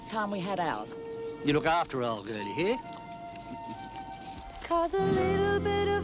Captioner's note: chuckling